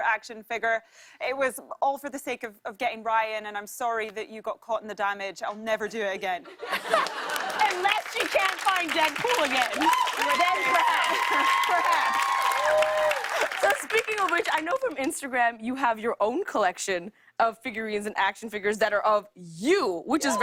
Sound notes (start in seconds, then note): 5.6 laughter and applause; 6.8 cheers and applause